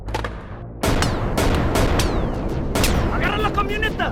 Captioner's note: gun firing; guns firing; bullets ricocheting